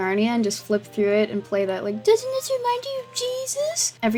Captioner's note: mocking